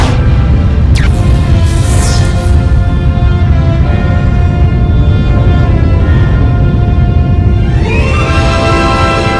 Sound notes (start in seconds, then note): 0.9 electricity buzzes